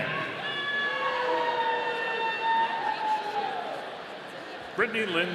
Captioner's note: audience cheering